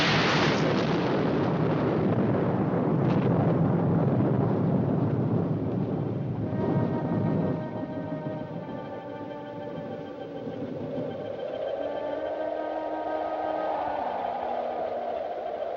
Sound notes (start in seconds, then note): 0.0 loud Thunderclap; 4.2 thunderclap Fading